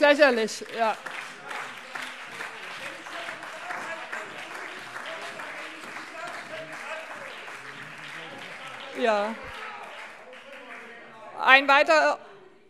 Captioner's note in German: Beifall - Zurufe: Das ist eine Unverschämtheit! - Anhaltende Zurufe AfD